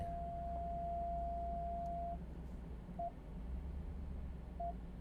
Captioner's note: car instruments beeping